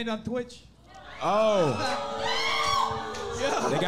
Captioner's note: audience clamoring